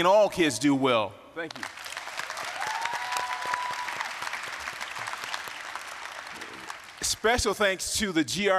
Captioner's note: applause, cheering